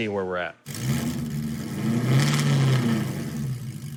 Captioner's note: engine revs